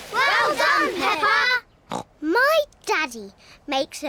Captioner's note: snorts